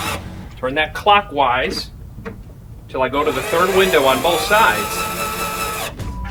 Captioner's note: drilling